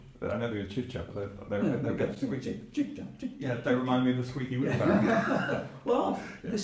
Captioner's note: laughs